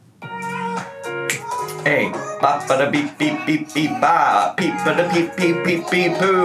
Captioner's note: making music sound effects